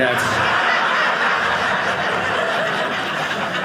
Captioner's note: audience laughing